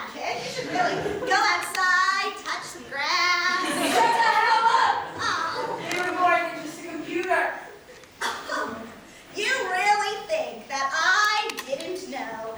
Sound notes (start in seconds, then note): 0.0 laughs; 8.5 scoffs